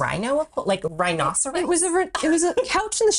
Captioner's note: laughs